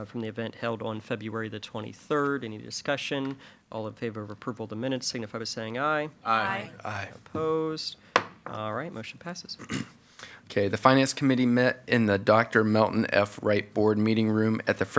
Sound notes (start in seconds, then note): 8.1 gavel pounds; 9.6 clears throat